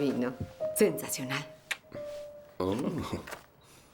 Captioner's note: speaking in foreign language